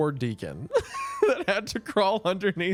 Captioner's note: laughs